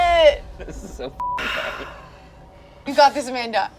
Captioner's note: beep